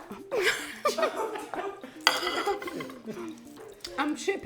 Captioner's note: person laughing